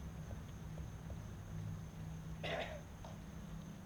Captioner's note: silence, a cough